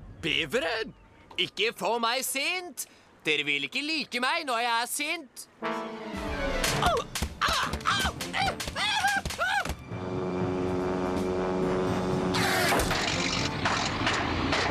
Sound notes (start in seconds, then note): 7.4 yells